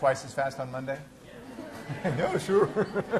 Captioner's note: laughter